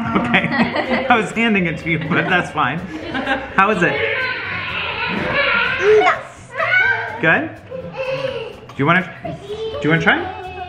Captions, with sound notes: - Okay. I was handing it to you, (laughs) but that's fine. (Mom laughing) How is it? - Good. - Good? Do you want to try it?